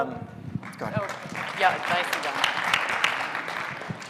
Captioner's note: audience clapping